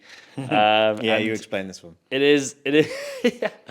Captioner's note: chuckles; laughs